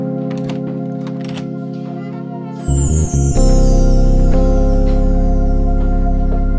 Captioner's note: gentle music; twinkling music; door rattles